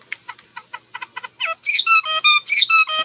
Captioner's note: bird singing